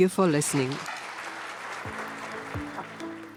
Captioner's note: audience applauds